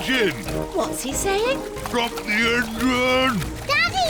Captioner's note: splutters